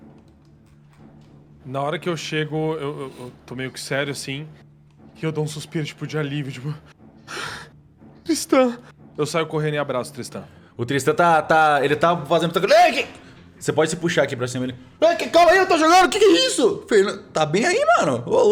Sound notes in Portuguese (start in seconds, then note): 7.3 suspiro